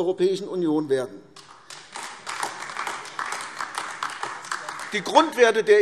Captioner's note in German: Beifall AfD